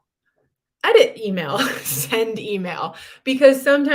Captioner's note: laughter